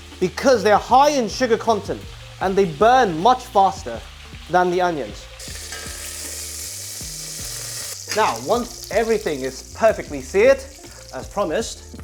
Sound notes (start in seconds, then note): 5.4 sizzling sound